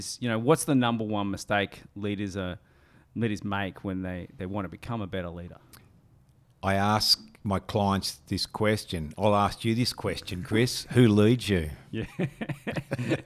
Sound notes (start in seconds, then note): 12.0 chuckling